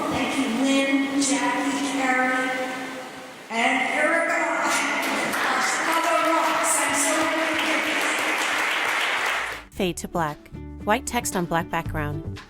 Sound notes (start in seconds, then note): 7.5 applause; 9.9 light plucky guitar music